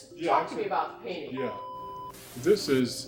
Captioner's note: static buzzing